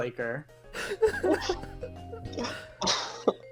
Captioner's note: laughter